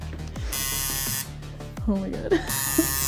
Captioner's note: tattoo needle buzzing